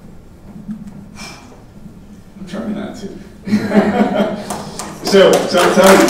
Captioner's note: exhaling; laughing; audience applauding